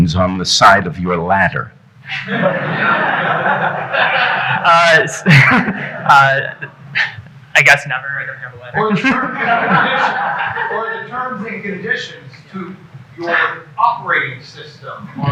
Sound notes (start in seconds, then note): 2.1 audience laughing; 5.2 chuckles; 8.8 audience laughing